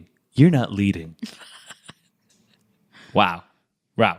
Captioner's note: laughs